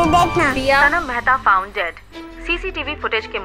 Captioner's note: News on TV